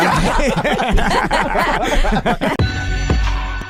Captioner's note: laughing